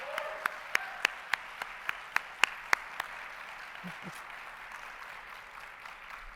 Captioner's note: and audience applauding; audience cheering and applauding